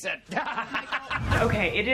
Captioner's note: man laughing